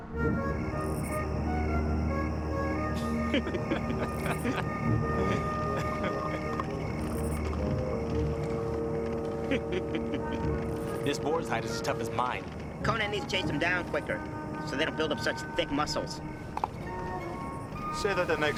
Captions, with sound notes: (light orchestral music) (crickets chirping) (laughing) - This boar's hide is as tough as mine. - Conan needs to chase them down quicker, so they don't build up such thick muscles. (wooden clatter)